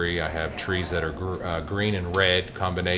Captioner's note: none